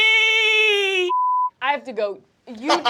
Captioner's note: beep